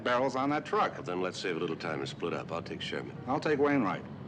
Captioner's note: none